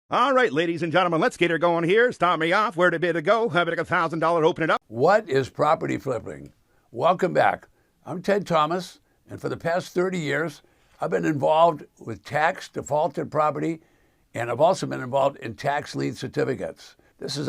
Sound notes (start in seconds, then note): 3.1 auctioneer speaking